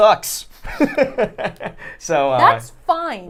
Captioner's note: laughs